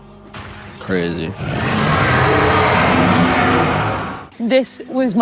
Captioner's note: Mind Flayer screeches